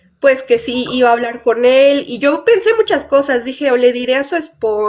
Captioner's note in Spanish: none